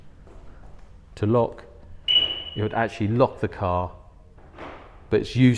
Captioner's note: beep